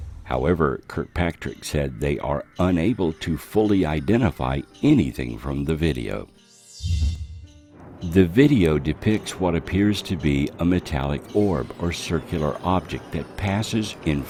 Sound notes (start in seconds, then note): 6.8 craft whooshing